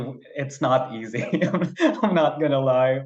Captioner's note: laughs